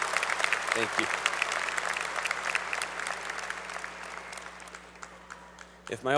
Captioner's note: applause